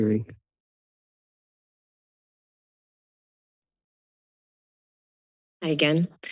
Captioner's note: silence